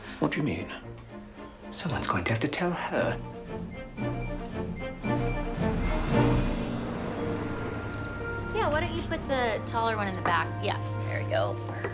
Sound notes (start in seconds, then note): 7.0 birds chirping; 7.0 light music